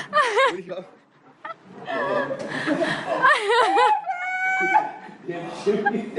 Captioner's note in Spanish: La risa